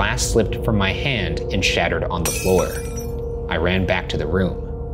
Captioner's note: glass shattering